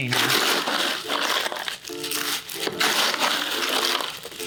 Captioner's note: ice crumbling